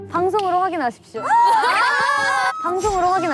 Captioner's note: laughing